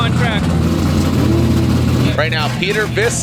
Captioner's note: engine rumbling